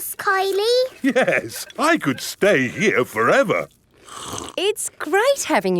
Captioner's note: slurps